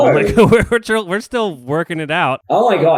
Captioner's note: laughs